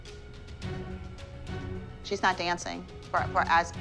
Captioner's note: stammers